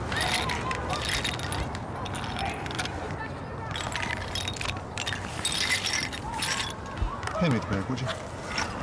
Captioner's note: tinkering of chess pieces